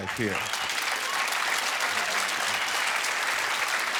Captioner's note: cheering